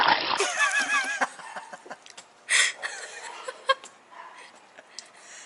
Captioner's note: water spilling; laughing